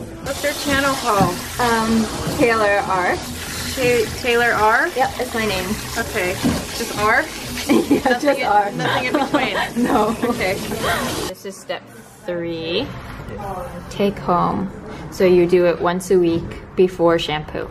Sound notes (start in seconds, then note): 7.6 laughs